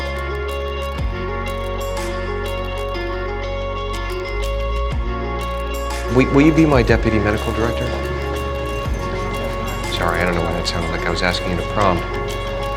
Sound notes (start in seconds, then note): 6.2 voiceover